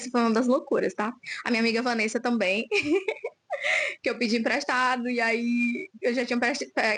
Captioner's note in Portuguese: risadas